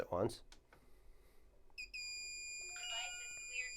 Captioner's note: steady beep